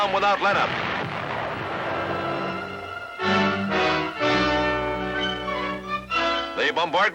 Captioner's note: music, explosions